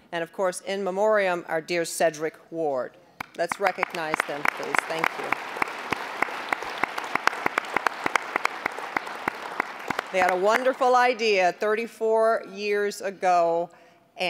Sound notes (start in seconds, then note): 6.0 applause